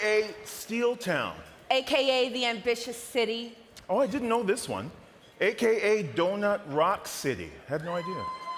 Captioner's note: cheering and applause